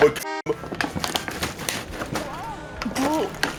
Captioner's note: shaking water bottle noises